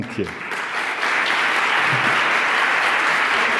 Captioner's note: applause